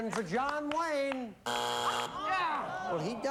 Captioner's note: buzzer